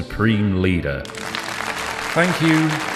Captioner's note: applause